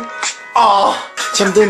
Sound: moan

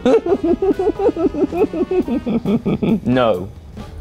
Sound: laughs; continues laughing

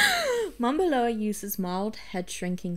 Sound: laughs

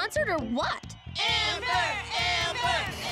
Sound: crowd chanting "Amber!"

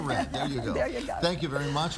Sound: laughing

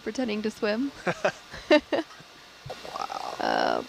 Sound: both laughing

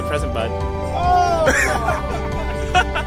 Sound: man laughs

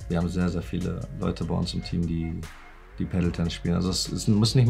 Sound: speaking foreign language

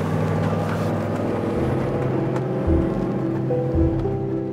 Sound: truck engine growling; melancholy light classical music continuing

